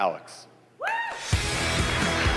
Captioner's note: applause